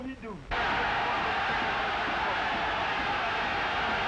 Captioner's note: crowd shouting